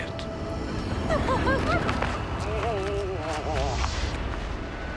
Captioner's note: Eliza giggling